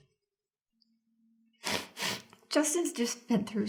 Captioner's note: sniffles